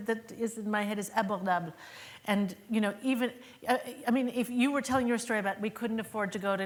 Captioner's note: speaking french